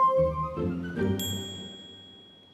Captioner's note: bell dings